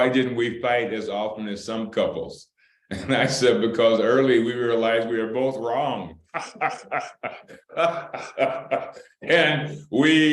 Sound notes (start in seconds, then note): 6.3 laughter